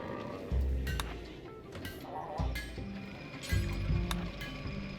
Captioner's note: clicking